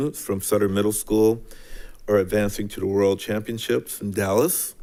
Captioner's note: none